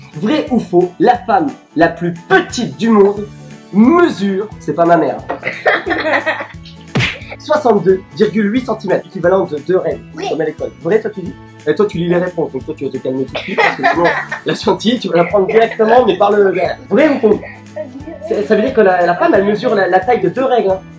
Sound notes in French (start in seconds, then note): 5.3 rires; 6.7 Bruit de baffe